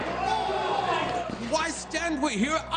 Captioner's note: soldiers shouting